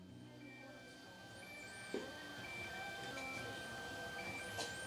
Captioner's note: machines beeping